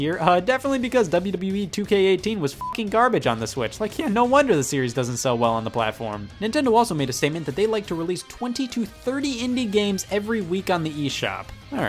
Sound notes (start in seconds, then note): 2.6 beep